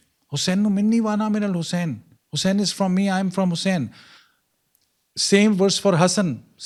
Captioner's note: non-english speech